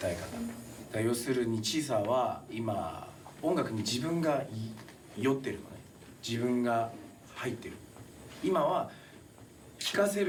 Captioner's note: speaking in foreign language